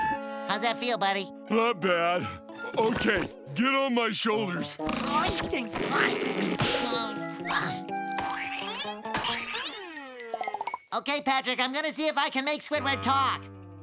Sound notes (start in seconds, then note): none